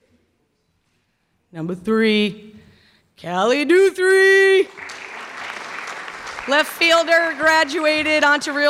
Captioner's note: clapping